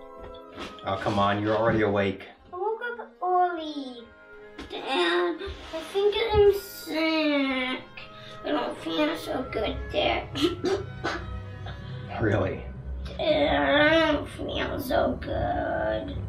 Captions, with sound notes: Oh come on, you were already awake. I woke up early. Dad - I think I'm sick. I don't feel so good, Dad. *coughs* Really? Dad - I don't feel so good...